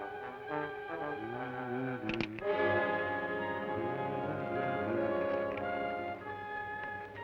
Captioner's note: hums melodically; gun cocks